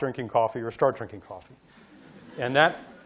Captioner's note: audience laughing